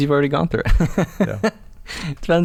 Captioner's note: laughs